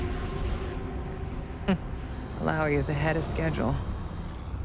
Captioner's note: chuckles